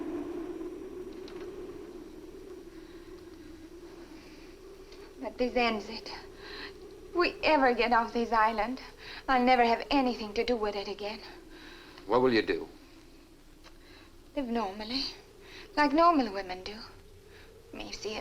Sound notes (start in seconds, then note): 5.2 Ann speaks Swedish